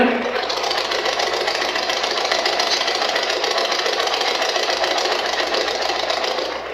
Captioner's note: white Noise